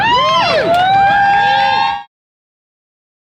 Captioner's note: cheering